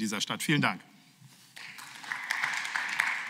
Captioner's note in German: Beifall